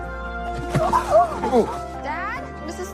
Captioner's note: gasps